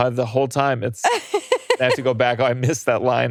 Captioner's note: laughing